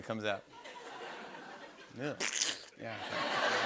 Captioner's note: slurp sound